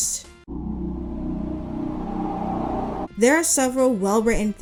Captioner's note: “Ooo” plays, wind howling